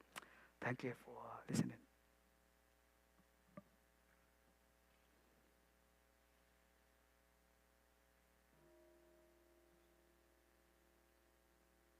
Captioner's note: bell x3